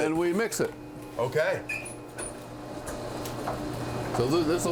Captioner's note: mixer humming